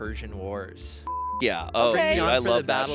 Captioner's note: beep